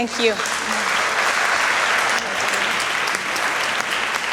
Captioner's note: applause